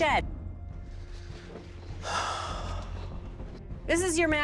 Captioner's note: sighs